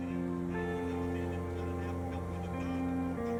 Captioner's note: people chattering